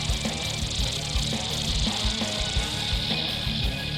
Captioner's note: snakes rattling